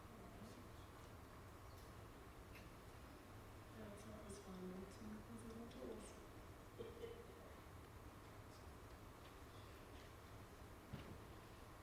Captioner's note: talking amongst themselves